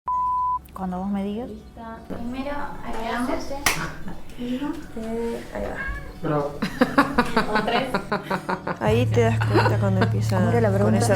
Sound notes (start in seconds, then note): 2.2 clapperboard snaps; 5.0 meowing; 6.0 laughing